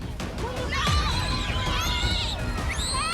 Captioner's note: children screaming